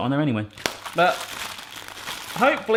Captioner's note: bag crinkling